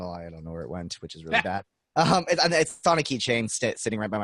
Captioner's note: laughing